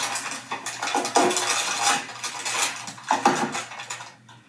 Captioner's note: pot clattering